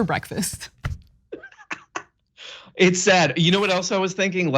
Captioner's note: laugh